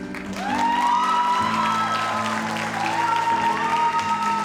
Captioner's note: audience applauds